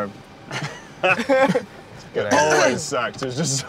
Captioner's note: laughing